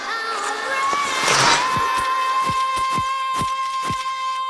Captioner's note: cool music; skate stroking